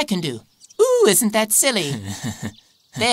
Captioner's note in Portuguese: Risos